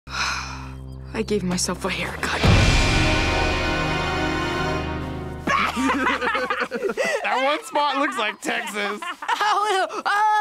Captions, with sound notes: - (sighing) I gave myself a hair cut. (dramatic music) (kids laughing) - That one spot looks like Texas.